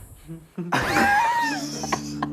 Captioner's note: laughing